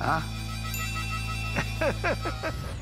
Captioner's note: laughter